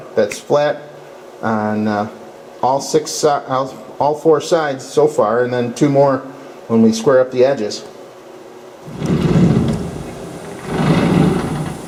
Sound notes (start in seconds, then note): 8.8 door opening; 8.8 hissing air